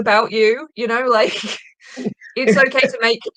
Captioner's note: chuckling